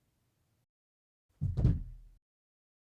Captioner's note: thump